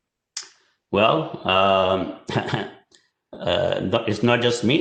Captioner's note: chuckles